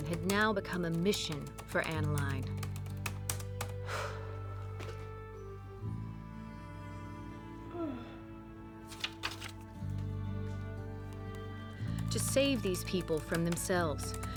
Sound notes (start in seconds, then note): 3.7 exhales; 7.6 yawning